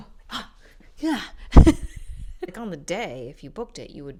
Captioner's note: laughs